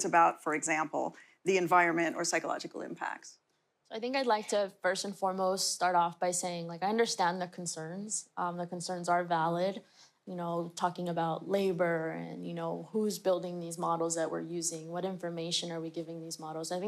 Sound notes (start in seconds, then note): none